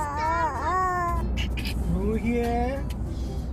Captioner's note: baby sounds